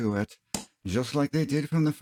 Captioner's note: smack